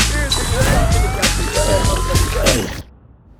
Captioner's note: siren wailing